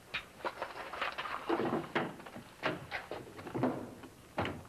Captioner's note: items rattling